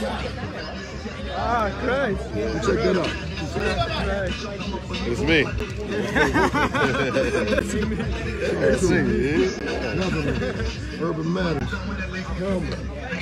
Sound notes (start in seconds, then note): 8.5 laughing